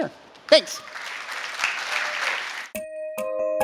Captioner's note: applause